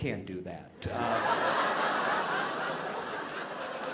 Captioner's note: audience laughing